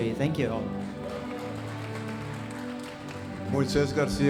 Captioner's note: audience applauding